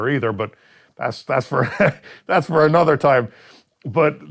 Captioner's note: laughs